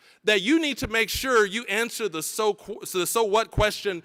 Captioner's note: none